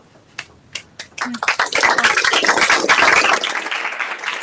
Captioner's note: applause